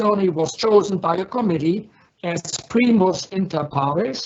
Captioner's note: speaks in foreign language